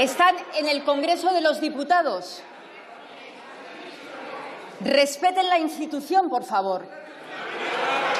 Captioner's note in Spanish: Protestas.-Aplausos